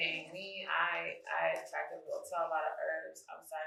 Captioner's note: speaking faintly